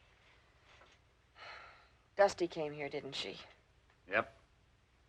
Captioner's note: sighs